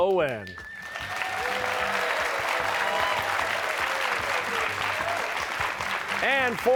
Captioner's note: cheers and applause